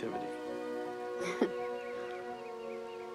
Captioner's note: chuckles